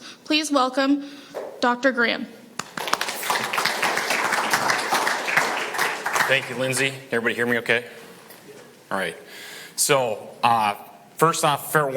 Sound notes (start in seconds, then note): 2.6 audience applauding